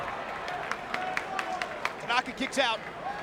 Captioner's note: crowd clapping